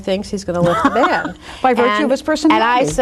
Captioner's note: laughs